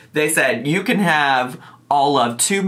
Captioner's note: none